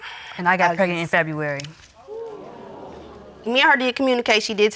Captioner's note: audience exclaims